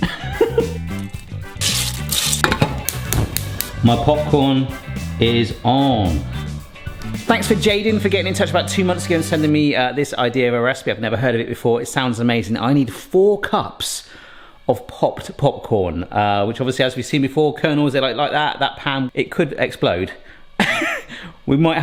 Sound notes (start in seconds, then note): 0.0 laughs; 0.8 kernels stirring; 2.2 cooker igniter clicking; 20.6 giggles